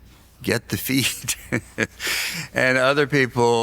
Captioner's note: laughs